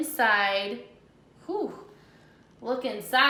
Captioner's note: sigh